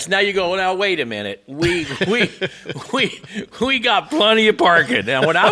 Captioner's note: both laughing